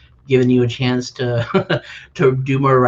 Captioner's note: laughs